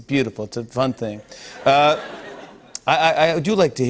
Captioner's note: laughter